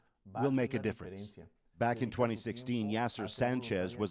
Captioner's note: speaking spanish